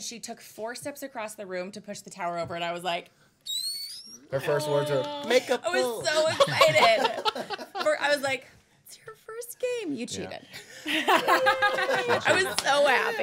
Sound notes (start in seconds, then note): 3.4 squealing; 10.8 laughing